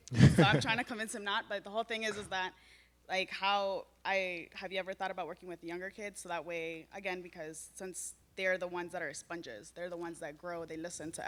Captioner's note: laughter